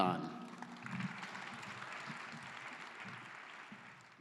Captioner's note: claps